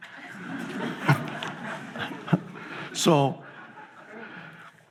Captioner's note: audience laughs